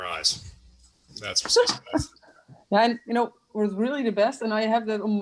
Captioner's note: laughs